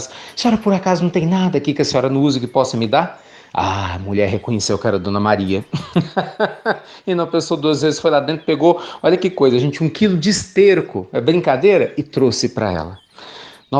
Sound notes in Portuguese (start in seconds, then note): 5.6 risos